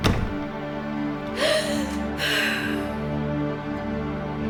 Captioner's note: door thudding